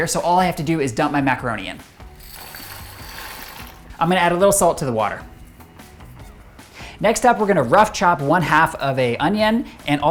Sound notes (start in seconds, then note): 2.2 noodles rattle